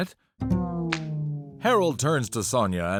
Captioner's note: slap